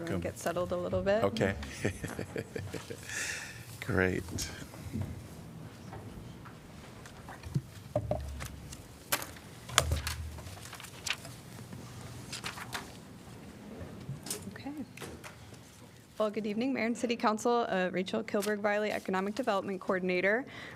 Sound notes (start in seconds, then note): 1.6 laughter